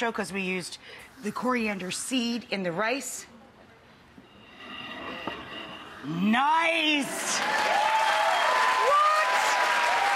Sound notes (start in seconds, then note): 7.0 people cheering